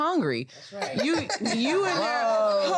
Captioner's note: laughs